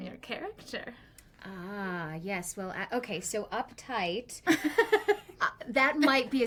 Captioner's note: laughs